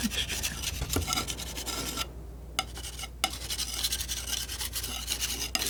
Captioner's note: scratching